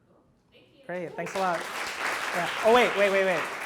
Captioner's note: audience claps